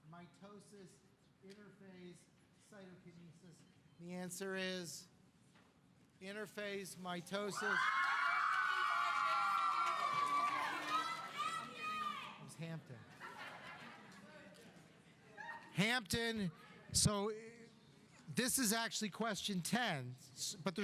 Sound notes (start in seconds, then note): 9.3 audience applauding; 9.3 audience cheering